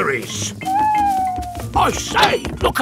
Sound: owl hooting

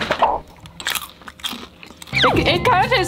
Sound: crunching

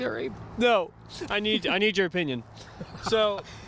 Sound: laughing

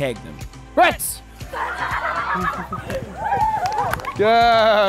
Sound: laughter

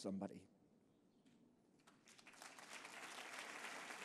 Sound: applause

